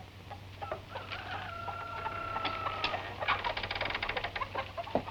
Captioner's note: rooster crowing